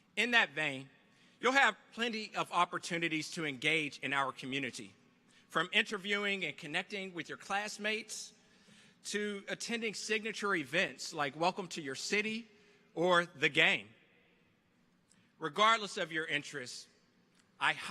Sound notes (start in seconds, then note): none